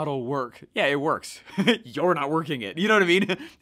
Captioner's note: laughing